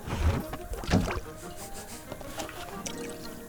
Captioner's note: sniff, sniff, sniff